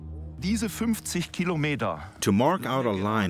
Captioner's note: speaking German